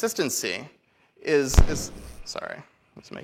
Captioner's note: mic feedback